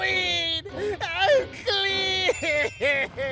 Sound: sobbing

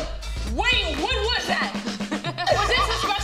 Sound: laughing

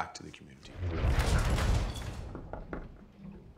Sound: thump!; knocks

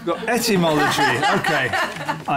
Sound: laughter

